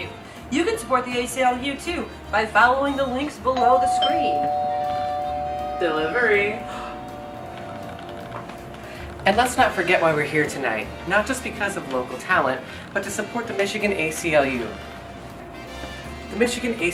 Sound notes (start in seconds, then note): 3.5 doorbell rings